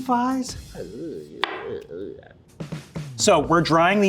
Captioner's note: groans